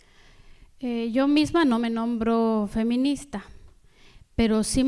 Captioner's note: speaking spanish